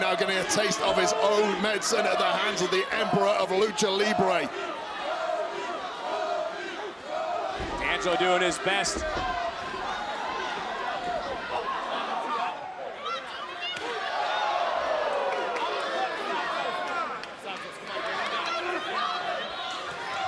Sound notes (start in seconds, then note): 3.4 crowd chants "tony"